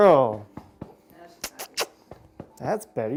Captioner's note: kissing